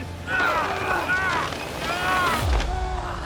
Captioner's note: men grunting